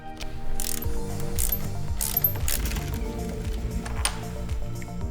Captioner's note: relaxed music; wrench cranking